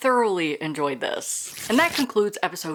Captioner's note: paper rip